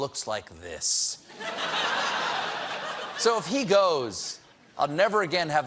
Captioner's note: laughter